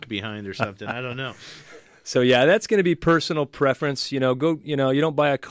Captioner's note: laughs